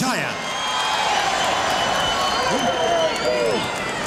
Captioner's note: audience cheering